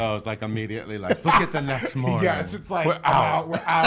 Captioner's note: laughs